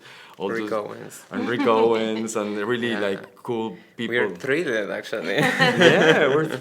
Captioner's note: laughter